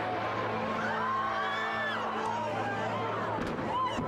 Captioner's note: crowds screaming; explosions banging